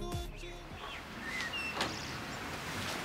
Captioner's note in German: Vögel zwitschern